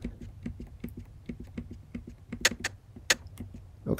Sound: buttons being pressed, hand clap

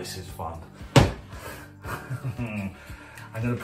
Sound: laughs

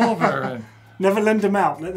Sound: laughter

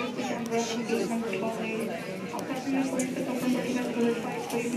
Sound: people talking, airport noises

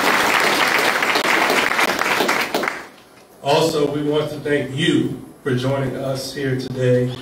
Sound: applause

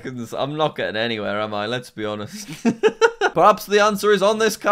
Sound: laughs

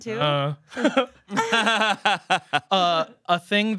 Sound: laughing

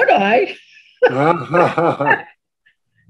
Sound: both laughing

